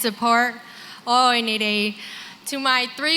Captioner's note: non-english